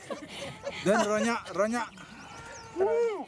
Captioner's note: speaking in native language